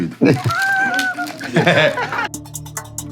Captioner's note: laughing